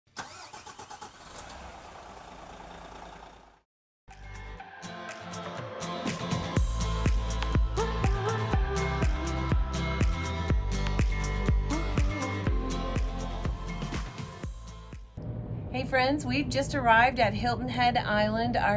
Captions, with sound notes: (engine starting) (upbeat music) - Hey friends, we've just arrived at Hilton Head Island,